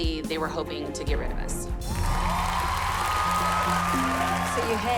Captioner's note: cheering